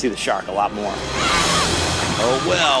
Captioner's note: screaming